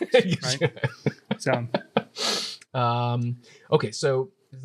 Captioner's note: laughs